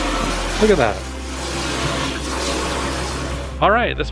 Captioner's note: water spraying